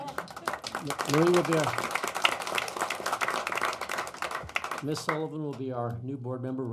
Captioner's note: applause